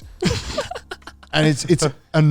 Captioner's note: giggling